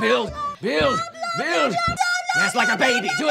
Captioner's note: Leah yells gibberish